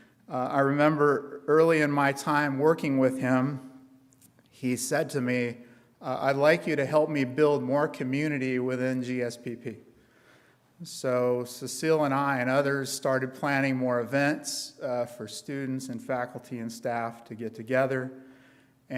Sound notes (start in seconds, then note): none